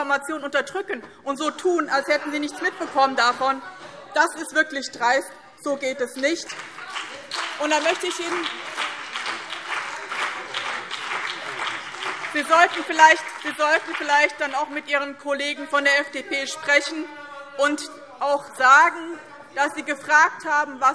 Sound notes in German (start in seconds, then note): 3.6 Lachen : Das ist doch gelogen!